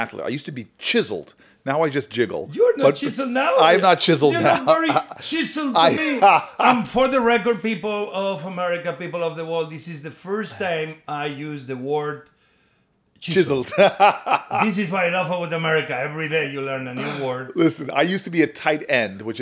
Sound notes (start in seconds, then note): 4.2 Sen. Booker scoffs; 4.2 chuckles; 13.6 laughs